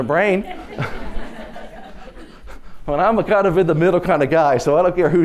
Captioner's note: laughter